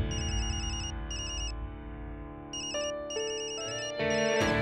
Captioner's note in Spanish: Suena el celular